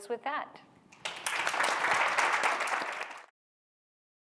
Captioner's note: applause